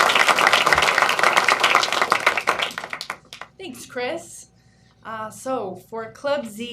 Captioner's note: applause